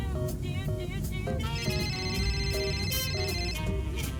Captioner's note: phone rings